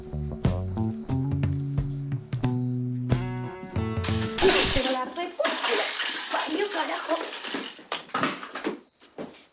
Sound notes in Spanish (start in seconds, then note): 3.9 Golpe plástico; 7.9 Golpe plástico